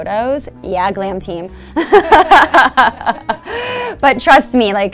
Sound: laughing

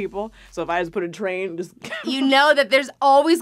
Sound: laughs

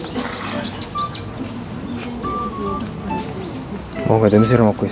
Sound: sniffing

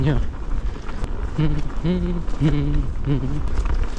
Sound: hummdihumm

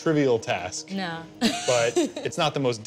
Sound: laughing

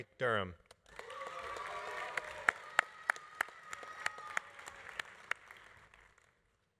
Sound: audience applauding; audience cheering

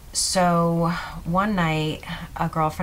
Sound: none

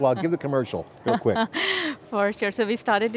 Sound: laughing

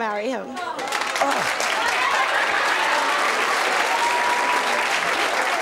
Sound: audience applauding

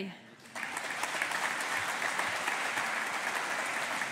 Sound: audience applauding

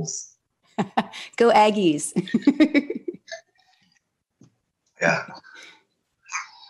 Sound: laughs

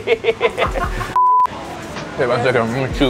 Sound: laughing

